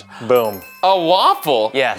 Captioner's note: bells chiming